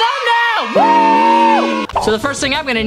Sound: screams

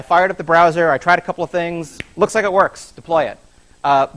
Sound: claps hand

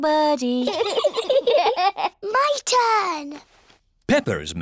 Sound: both giggle

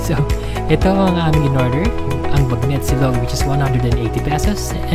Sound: none

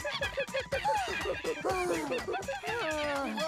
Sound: monkey cries; gasping

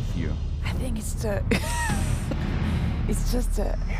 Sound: laughs

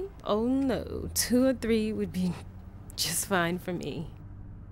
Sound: none

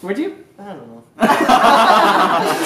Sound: laughter

